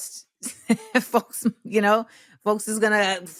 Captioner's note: laughs